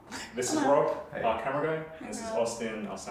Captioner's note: chuckles